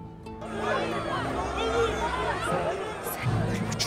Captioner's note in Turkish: Kalabalık bağrışma sesleri